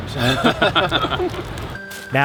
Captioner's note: all laugh